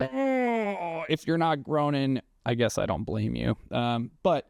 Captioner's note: groan